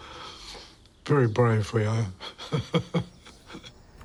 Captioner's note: laughs